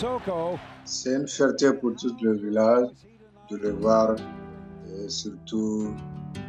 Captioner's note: speaking in French